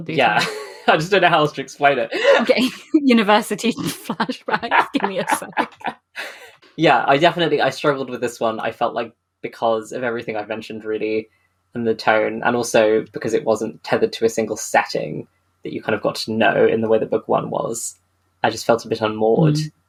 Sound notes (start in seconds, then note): 1.9 laughing; 3.7 laughs